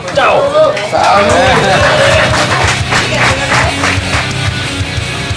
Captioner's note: applause